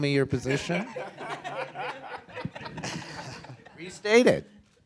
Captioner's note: audience laughing